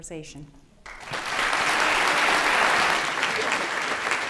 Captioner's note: applause